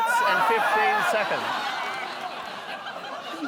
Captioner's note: shouts over the top